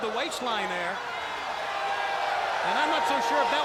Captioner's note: crowd cheering